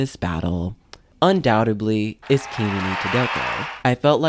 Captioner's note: applause